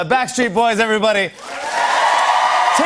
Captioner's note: cheers and applause